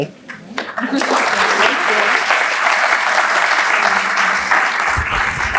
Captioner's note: applauds